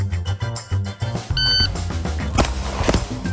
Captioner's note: upbeat music; gadget beeps; gunfire popping